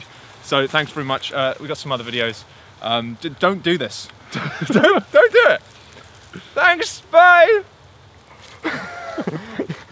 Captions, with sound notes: So thanks very much. We got some other videos Don't do this. (LAUGHING) Don't do it! Thanks, bye! (LAUGHTER)